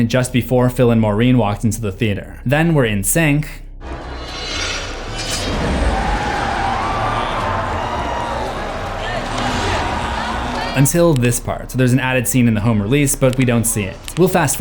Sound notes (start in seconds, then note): 3.9 knives slashing and music; 7.3 crowd cheers